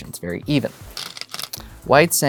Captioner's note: stones rattling